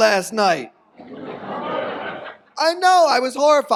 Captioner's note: audience groans